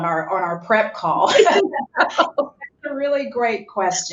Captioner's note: laughs